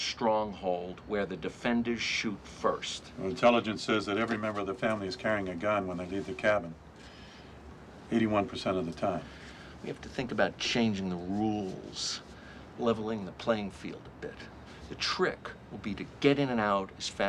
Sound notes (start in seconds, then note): none